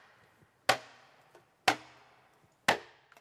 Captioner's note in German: Hämmern